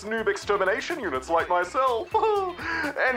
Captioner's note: chuckles